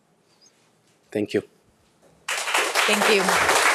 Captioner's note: audience applauding